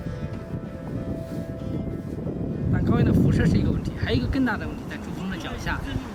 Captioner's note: speaking Chinese